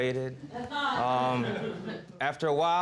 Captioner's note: audience laughing